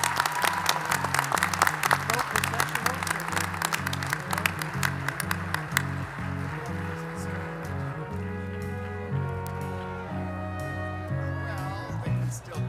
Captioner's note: cheers and applause